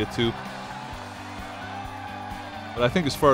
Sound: cheering

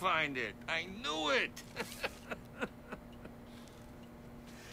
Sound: laughing

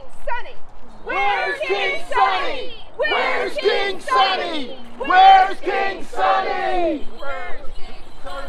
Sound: chant

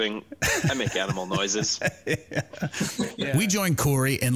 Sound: laughs lightly

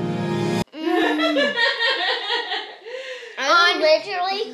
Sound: tense music; mum laughing

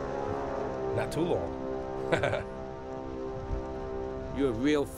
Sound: chuckling

